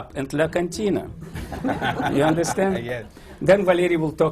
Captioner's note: laughter